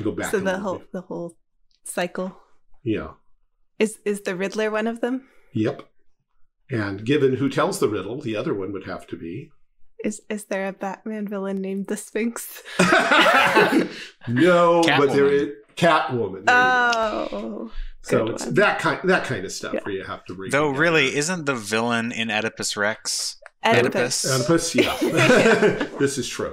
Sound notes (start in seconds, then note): 12.7 laughing